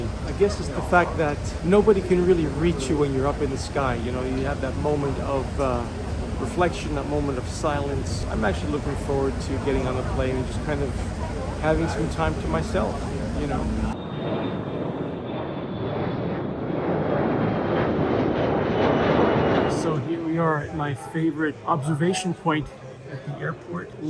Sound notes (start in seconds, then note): 14.6 airplan engine roar receding overhead